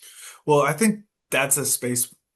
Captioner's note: nods and hums in agreement